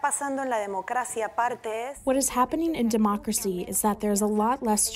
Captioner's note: through translator